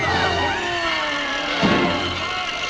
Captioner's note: screaming